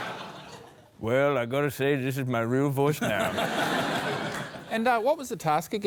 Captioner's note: deep drawl